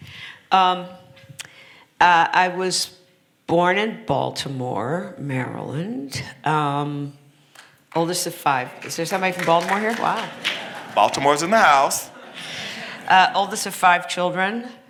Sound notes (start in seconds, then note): 8.4 applause